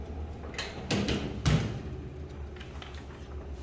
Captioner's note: oven door closing